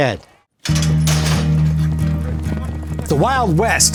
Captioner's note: metal clacking; upbeat music